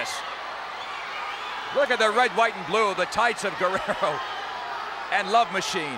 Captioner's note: laugh